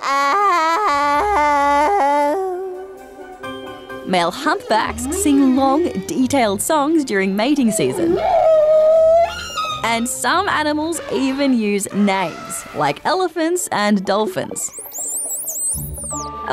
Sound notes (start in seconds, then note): 7.4 shrieking; 14.5 high-pitch whistling